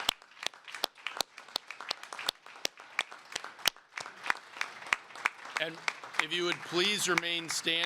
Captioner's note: applause